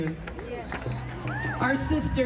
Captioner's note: crowd cheering